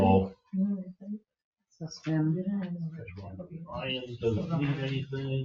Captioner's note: members chattering